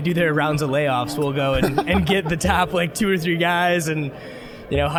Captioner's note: laughing